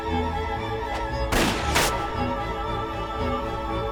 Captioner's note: gunshot